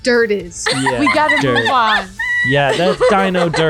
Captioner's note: laughing